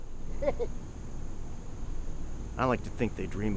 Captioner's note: Becker chuckles